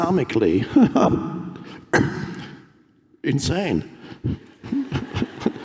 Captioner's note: Eckhart laughs; audience laughs